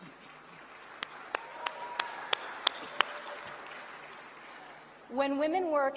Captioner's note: applause